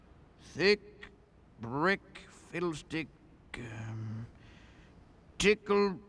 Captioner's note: reciting